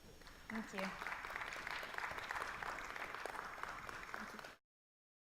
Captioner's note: audience applauding